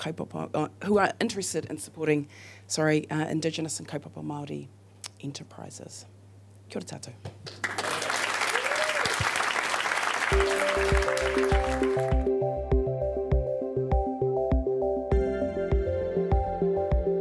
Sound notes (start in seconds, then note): 7.4 audience claps and cheers; 12.4 soft music